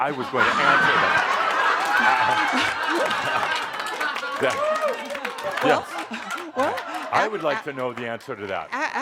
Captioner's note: lots of laughter